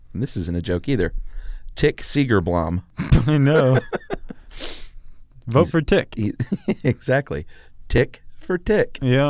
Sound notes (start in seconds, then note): 3.0 laugh; 6.4 laughs